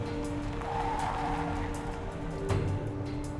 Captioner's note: tire squeal